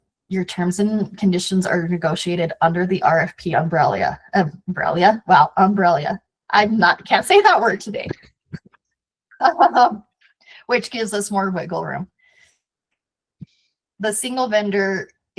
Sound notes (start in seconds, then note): 9.4 laughs